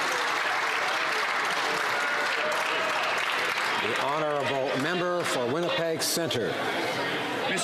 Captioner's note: some Applause